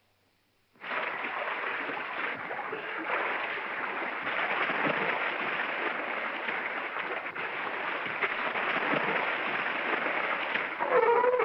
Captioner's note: water splashing; seal barks